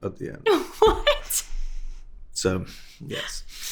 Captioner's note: laughs